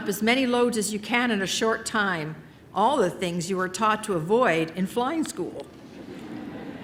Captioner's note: laughter